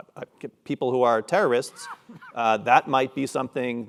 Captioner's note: cough